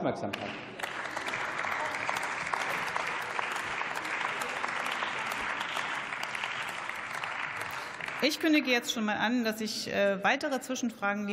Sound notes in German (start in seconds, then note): 8.5 Beifall